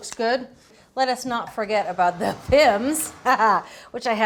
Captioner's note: laughs